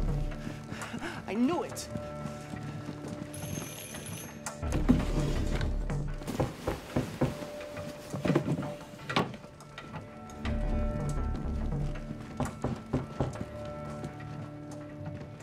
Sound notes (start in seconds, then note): 3.3 doorbell rings; 6.2 knocking on door; 12.4 knocking on door